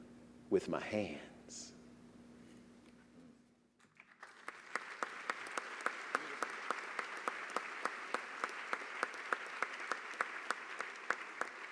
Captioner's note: applause